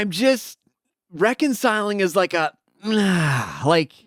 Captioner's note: groans